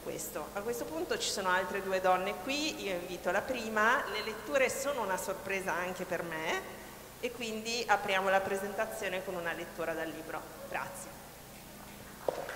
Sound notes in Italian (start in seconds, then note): 11.2 Applauso